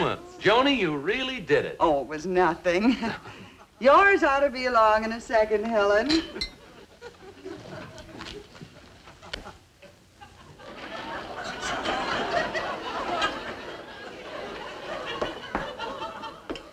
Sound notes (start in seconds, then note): 11.9 audience laughing